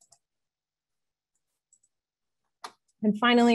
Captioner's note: mouse clicks